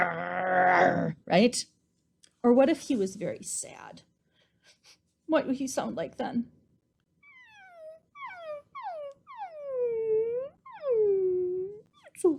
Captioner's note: whimper, whimper, whimper